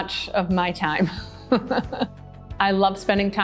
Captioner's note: laughs